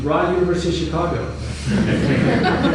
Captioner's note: laughter